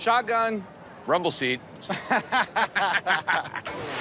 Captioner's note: laughter